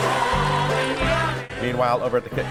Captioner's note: audience applause